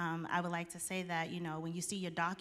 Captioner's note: none